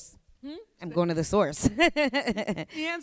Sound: laughs

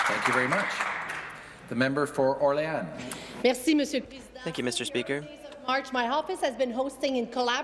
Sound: some Applause

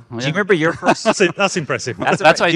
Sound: laughing

